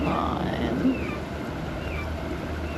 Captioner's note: bird calls